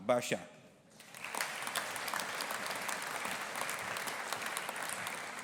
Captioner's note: audience applauding